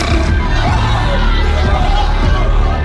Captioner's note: screaming